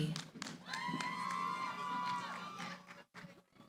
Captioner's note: cheering